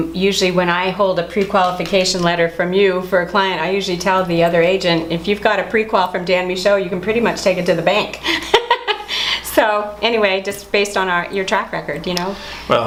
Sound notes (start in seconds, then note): 8.2 chuckles